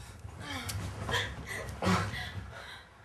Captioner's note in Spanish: jadeo